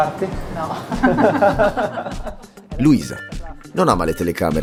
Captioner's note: laugh